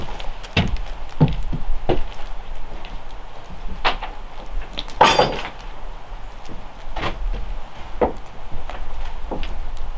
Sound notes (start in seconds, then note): 0.5 footsteps thudding; 5.0 metal clanks